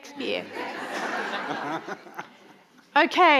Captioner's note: audience laughing